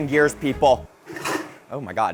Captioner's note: blender clunks